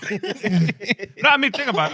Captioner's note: laughing